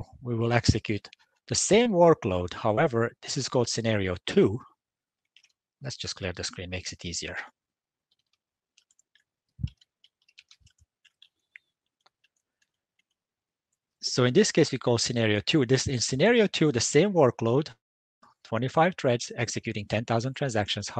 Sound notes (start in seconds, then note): 8.7 keyboard typing; 8.8 mouse clicking